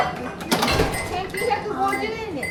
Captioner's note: beeping